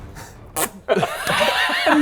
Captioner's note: pffp